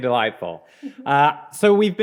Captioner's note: chuckling